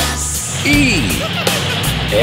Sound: bumblebee trucks giggles; purple truck giggles

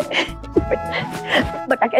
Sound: giggling

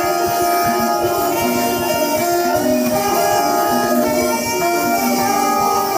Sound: applause

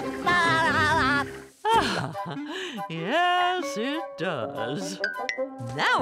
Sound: laughing; sighing

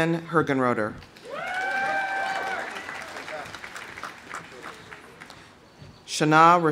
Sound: audience applauding; audience cheering

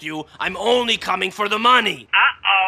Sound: none

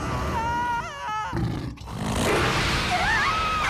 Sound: roars; all scream; screaming and snarling

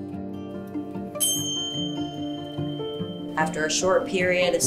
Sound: bell chiming

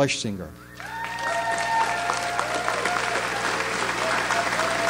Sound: audience applauds

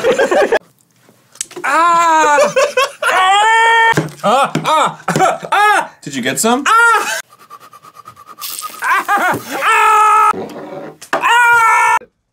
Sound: this is just screaming in pain

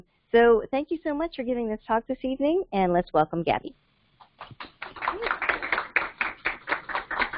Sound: applause

